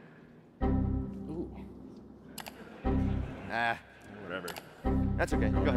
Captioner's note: error message chiming